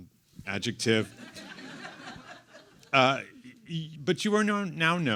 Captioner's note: everyone laughs